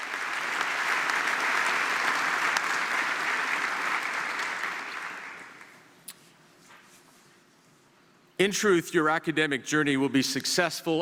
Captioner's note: applause